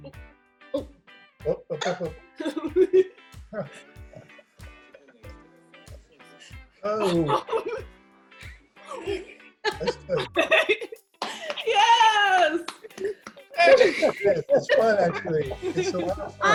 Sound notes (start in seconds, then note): 8.0 giggles